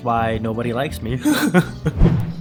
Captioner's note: cries